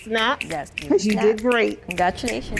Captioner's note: group snapping